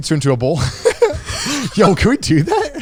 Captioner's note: speakers laughing